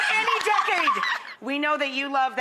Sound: laughs

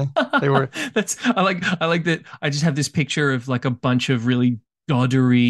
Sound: laughs

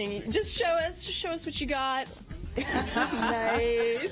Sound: laughter and applause

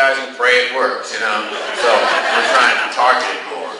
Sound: class laughs

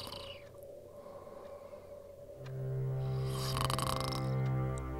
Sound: snoring

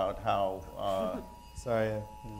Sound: beeping sound

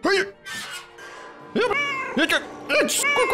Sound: meow

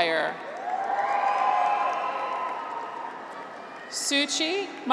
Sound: graduates cheer

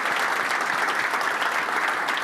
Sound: applause

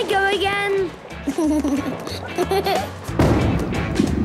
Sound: giggles

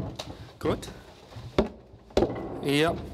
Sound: knocking sounds

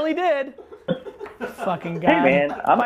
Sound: laughing

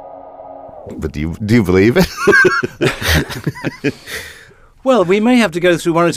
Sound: laughs

